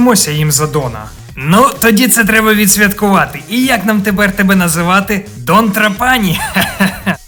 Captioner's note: laughter